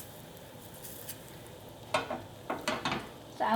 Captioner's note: sizzling